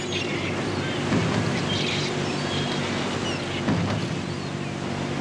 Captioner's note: crate clattering